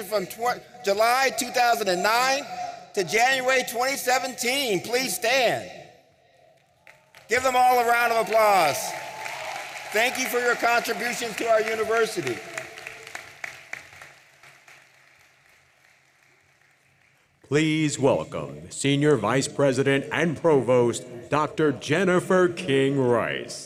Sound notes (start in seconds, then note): 8.9 audience applauding